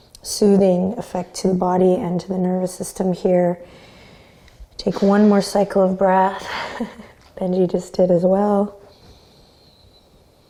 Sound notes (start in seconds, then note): 6.4 Benji sighs; 6.6 chuckles